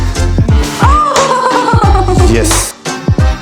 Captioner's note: screaming